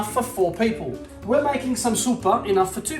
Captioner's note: speaking Italian